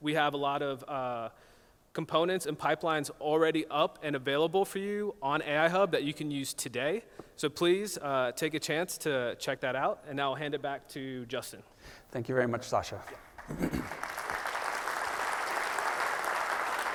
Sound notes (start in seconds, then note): 12.9 applause